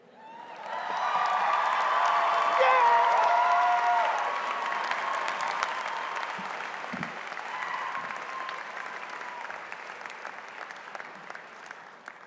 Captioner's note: applause